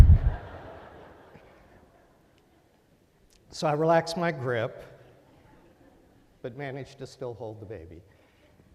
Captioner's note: laughter